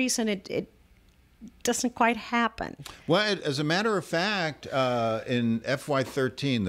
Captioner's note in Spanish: Hablando ingl\s